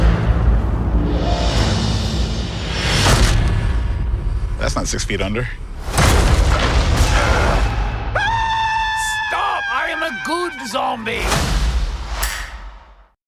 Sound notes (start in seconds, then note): 7.0 screaming; 7.1 grunts